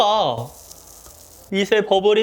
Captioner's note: crackle